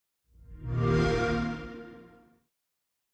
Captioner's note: xbox sound